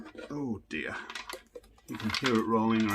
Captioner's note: soundpost rolling